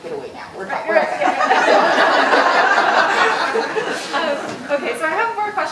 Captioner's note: audience laughing